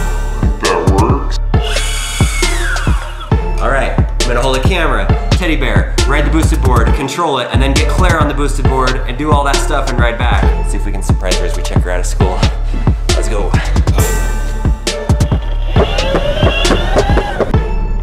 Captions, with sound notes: - That works. (motor revving) Alright, I'm gonna hold the camera, teddy bear, red Boosted board, control it, and then get Claire on the Boosted board and do all that stuff and ride back. See if we can surprise her as we check her out of school. Let's go. (upbeat hip hop music) (motor revving)